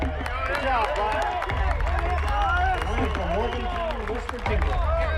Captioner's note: cheering and applause